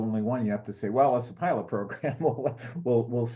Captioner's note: laugh